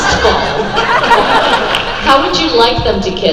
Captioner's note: crowd laughs